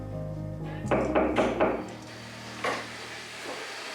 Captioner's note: knock at door